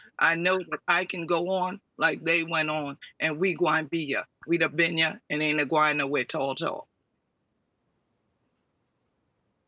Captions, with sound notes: I know that I can go on like they went on and we (speaks in foreign language)